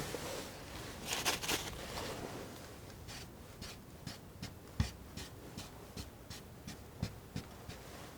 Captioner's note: tapping